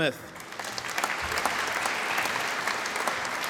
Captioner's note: applause